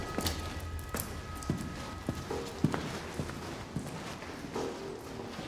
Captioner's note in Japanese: 濡れた床の上を歩く音; 足音